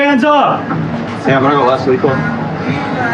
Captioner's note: chatttterer